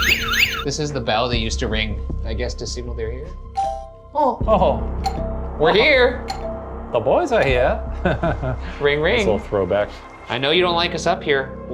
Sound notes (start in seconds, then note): 3.7 bell dinging